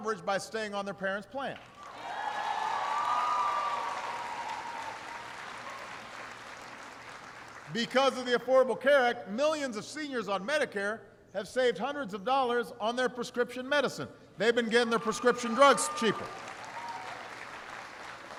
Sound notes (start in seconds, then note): 4.8 applause; 18.2 applause